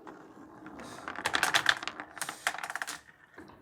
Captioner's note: marbles rolling